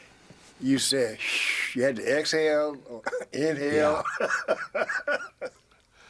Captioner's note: laughing